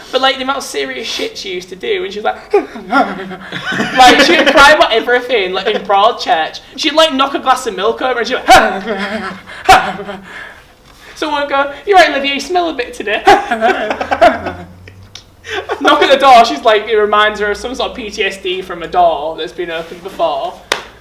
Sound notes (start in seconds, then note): 2.3 imitates crying; 2.3 laughing; 8.4 imitates crying; 8.4 laughing; 13.2 laughing; 13.4 imitates crying